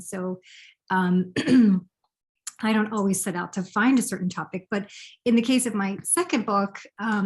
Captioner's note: clears throat